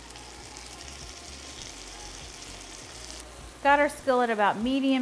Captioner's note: food sizzling; soft music